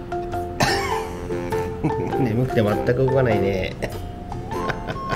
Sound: laughs

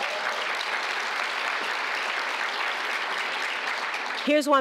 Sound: applause

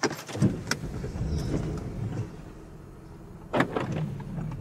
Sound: car engine starts

